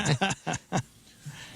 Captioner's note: laughing